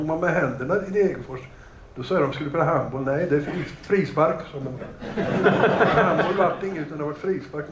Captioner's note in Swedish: Skratt